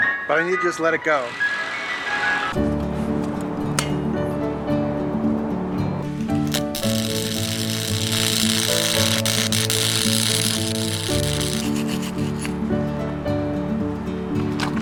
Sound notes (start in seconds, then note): 6.2 sparking noise; 12.0 sanding noise